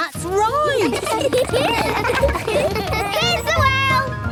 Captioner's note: laughter